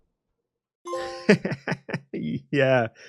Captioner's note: laughs